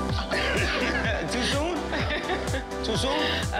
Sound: laughs

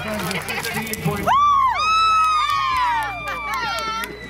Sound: cheering

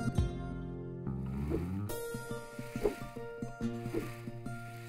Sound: Yo-Yo's swooshing

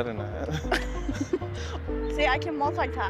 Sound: both laugh

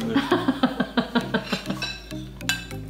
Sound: laughing

